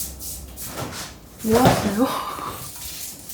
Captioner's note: munch munch munch munch